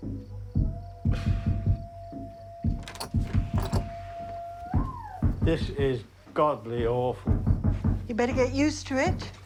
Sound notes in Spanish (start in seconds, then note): 0.1 cantando de fondo; 2.7 se abre la puerta